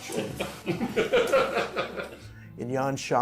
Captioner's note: laughter